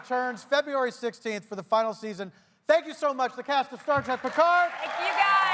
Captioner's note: cheers and applause